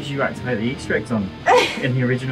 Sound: laughs awkwardly

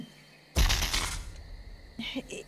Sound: brzzzzt

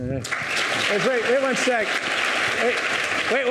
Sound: audience applauding

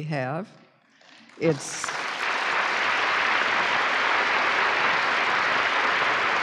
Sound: applause

